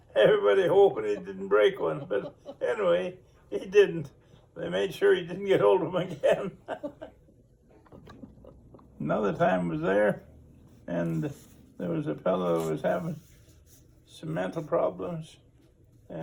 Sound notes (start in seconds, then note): 0.6 interviewer laughs; 5.6 laughs